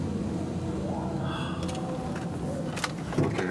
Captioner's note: sighs